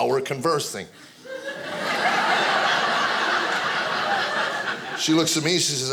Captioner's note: audience laughing